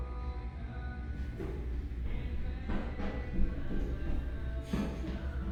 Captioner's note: clamoring footsteps